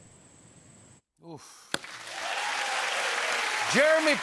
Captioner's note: cheers and applause